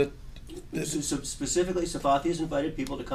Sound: voiceover

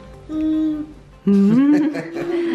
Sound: little girl murmurs in delight; mom and dad laugh

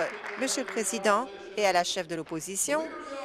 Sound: applause

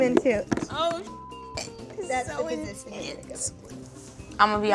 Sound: beep

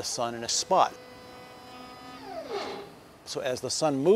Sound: whirring

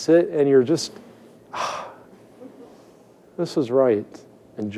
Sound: sighing

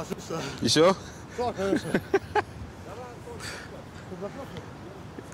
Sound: Reggie laughing

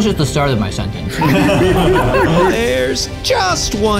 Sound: all laughing

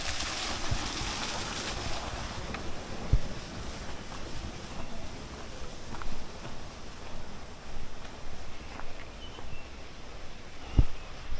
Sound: wind blowing

